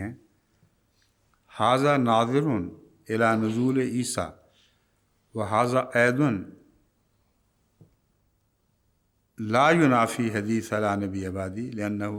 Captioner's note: Arabic